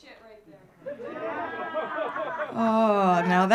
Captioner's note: audience laughing